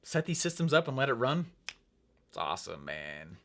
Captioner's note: snaps fingers